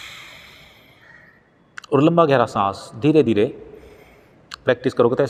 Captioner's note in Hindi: गहरी सांस लेने की आवाज़